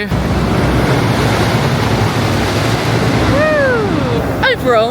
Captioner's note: rollercoaster roaring